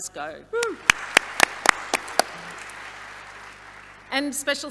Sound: audience applauding

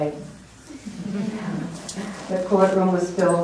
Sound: laughter

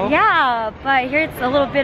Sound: none

